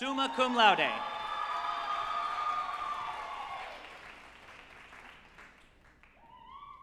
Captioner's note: group applauding and cheering